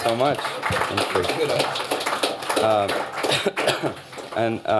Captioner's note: applause